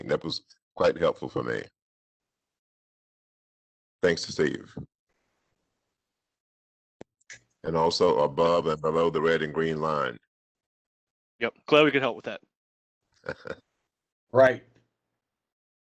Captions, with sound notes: That was quite helpful for me. Thanks, Steve. Also above and below the red and green line. Yeah, Cloud, can help with that. [LAUGHTER]. - Right.